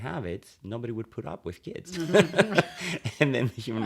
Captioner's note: laughter